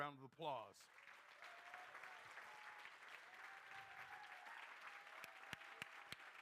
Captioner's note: crowd cheering and applauding